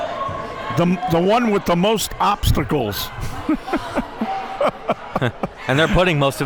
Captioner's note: laughing